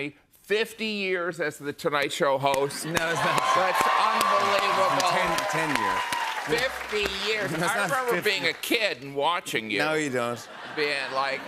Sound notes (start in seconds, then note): 5.5 cheers and applause; 10.3 laughter